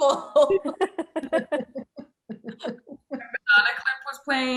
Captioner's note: laughter